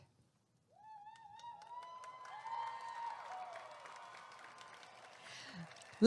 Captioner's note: applause and cheering